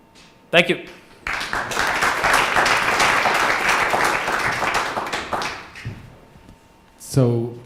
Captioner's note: clapping